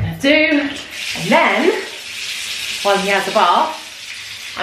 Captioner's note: water running